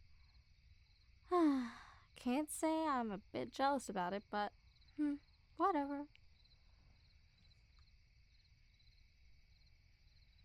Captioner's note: sigh